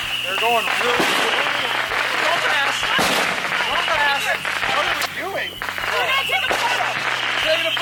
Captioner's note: people yelling and freaking out in the chaos